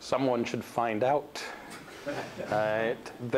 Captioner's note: laughter